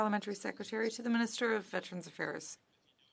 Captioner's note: speaking French